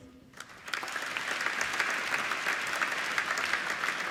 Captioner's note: applauding